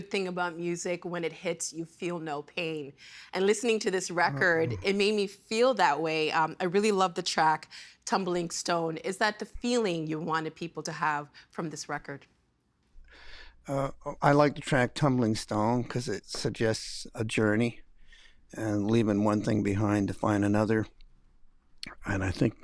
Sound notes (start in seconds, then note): 4.2 laughing